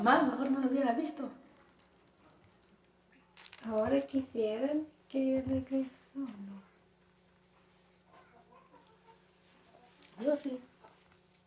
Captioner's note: speaking spanish